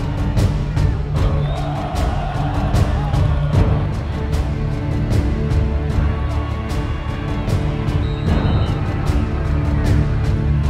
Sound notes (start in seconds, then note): 0.0 crowd chants; 4.0 inspiring dramatic music